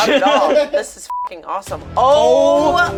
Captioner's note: beep